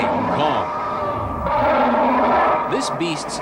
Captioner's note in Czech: King Kong Roars